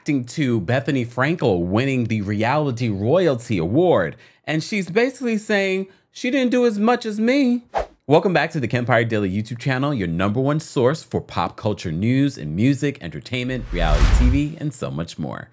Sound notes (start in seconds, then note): 7.6 air whooshing